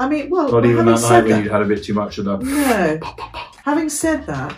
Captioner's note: inhales